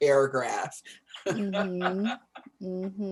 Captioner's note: laughs